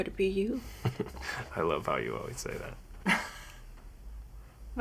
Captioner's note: chuckles; chuckles